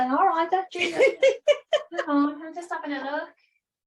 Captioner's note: laughing